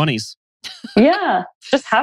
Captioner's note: laughs